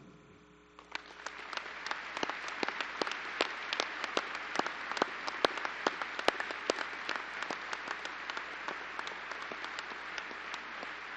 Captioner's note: applause